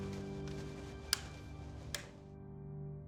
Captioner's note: light switch